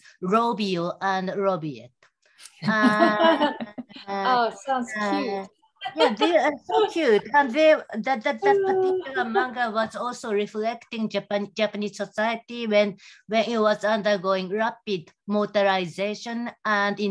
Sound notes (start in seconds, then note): 2.5 laughing